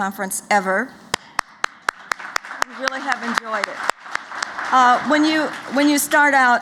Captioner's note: applause